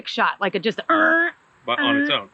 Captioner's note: imitates engine roaring